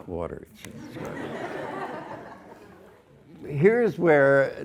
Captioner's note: students laugh